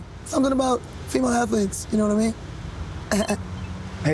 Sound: laughs

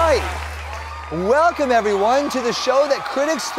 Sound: applause

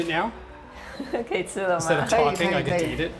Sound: speaking local dialect

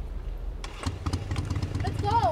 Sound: motorcycle engine starting

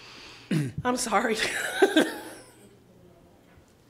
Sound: laughing

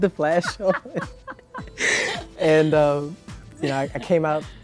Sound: laughs

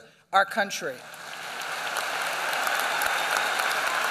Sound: applause

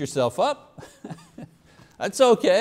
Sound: chuckles

